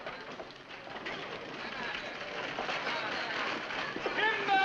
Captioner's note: carriage rattling